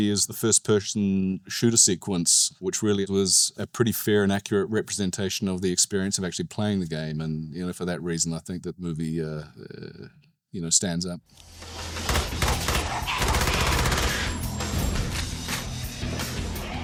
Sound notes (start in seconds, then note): 11.9 gunshots banging